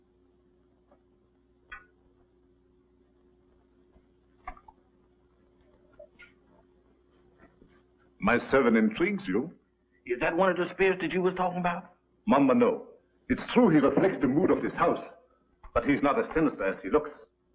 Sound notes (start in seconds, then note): none